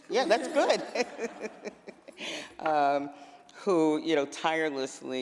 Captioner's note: laughter